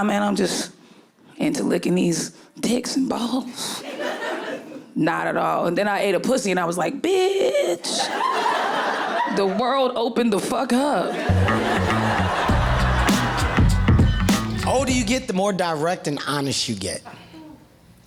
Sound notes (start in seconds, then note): 7.9 audience laughing; 11.1 audience laughing; 11.2 upbeat music